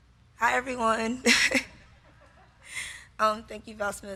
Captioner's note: laughs